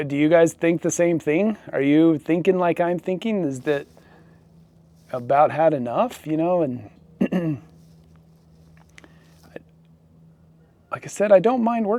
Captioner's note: clears throat